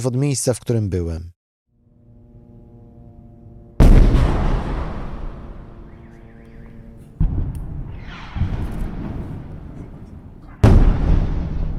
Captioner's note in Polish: bombardowanie i eksplozje